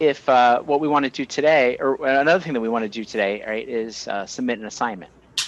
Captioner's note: computer feedback